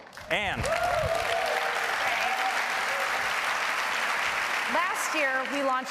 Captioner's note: applause